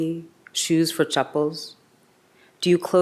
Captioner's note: speaks in a foreign language